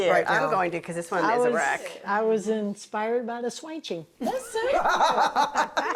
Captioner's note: chef laughs